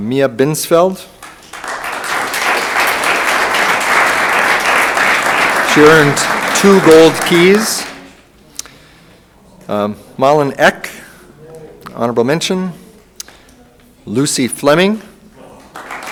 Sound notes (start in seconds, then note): 1.1 room applauds; 15.4 room applauds